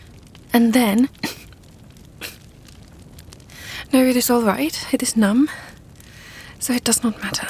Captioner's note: coughing